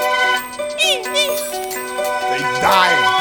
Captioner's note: imitating Seagulls Sounds